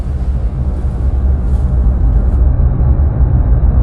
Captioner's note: low rumble